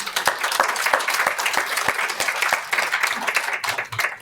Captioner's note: audience applauds